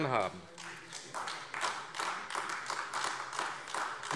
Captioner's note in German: Beifall AfD